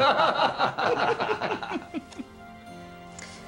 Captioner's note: <i> men laughing</i>